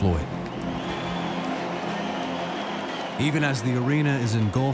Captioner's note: cheers and applause